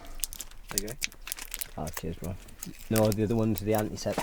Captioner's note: exhale of breath; crackling of tablet packet